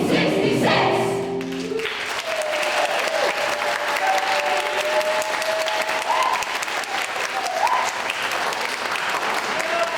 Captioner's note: shouted; applause